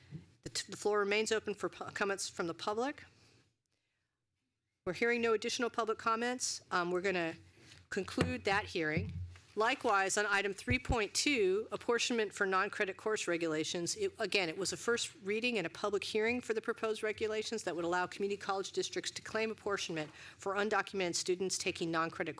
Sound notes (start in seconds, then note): 6.5 gavel